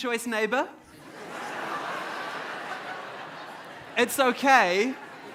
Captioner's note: audience laughs